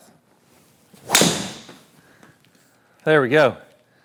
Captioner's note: ball cracking